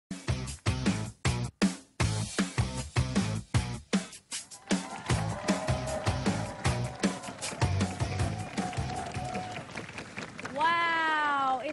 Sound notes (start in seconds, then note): 4.5 applause